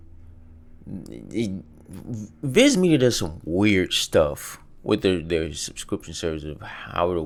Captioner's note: stammers